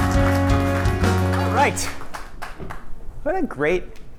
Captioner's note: applause